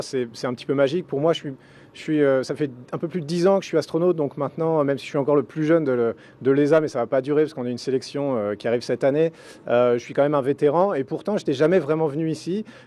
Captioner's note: speaking french